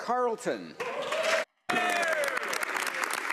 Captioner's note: speaking French